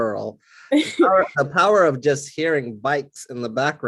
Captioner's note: laugh